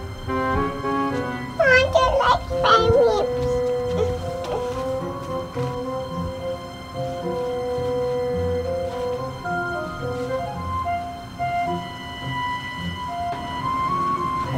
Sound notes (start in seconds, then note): 0.8 mumbles nervously